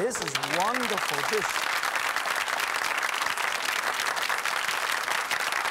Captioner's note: audience applauds